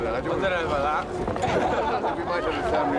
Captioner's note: laughing